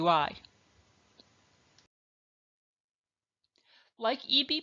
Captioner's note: silence